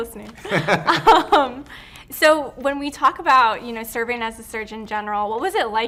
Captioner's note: both laugh